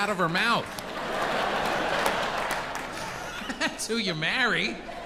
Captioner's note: audience laughs